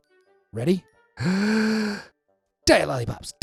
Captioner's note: breaths deeply